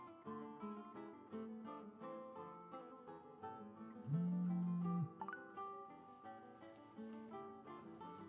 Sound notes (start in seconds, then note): 4.0 phone vibration and alerts